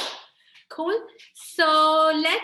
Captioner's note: clapping